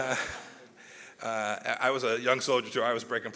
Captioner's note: laughter